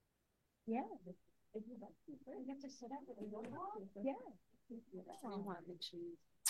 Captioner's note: indistinct board members chattering